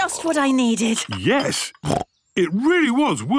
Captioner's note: snorts